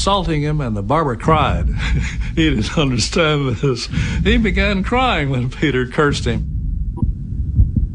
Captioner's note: laughs and mumbles